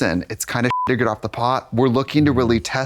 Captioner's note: beep